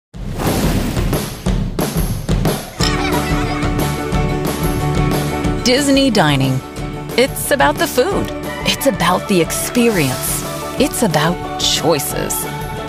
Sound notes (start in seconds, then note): 0.1 upbeat music; 2.7 children giggling